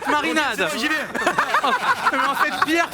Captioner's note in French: rires